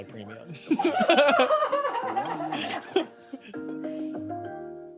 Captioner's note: everyone laughs; gentle music